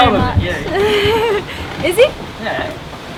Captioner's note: laughing